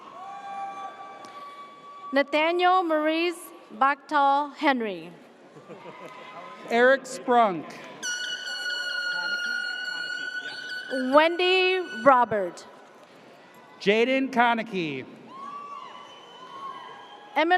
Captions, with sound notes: (audience cheers) - Nathaniel Maurice Baktal Henry. - Eric Sprunk. (air horn blares) - Wendy Robert. - Jaden Konicky. (audience cheers)